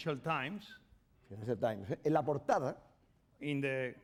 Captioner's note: speaking spanish